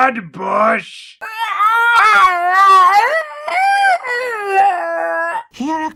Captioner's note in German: bizarres wildes Kreischen